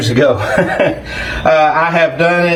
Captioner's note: laughing